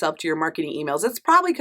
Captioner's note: none